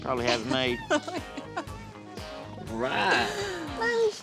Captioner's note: laughing